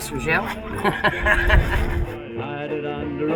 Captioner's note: laughs